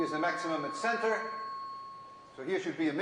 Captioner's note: tone fades away